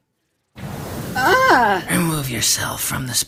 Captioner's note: Fuu2 gasps